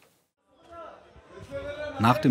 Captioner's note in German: Stimmengewirr